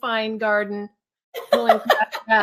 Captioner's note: laughs